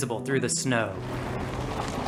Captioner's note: sound of pulling up in gravel